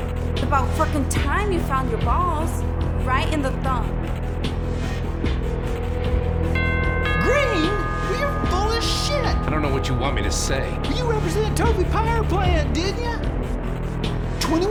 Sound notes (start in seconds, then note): 6.9 doorbell rings